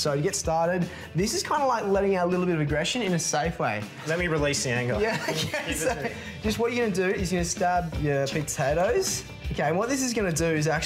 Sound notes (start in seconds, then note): 5.0 laughing